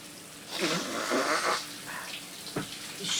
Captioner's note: Dominguez blowing nose